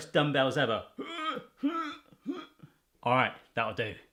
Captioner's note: grunting